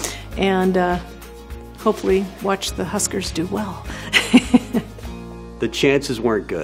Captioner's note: laughs